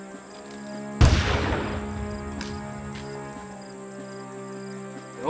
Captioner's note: gunshot booming